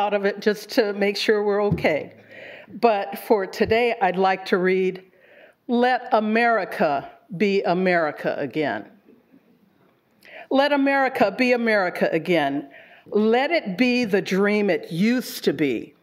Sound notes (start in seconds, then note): none